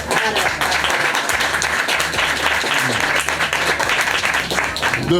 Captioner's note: crowd applause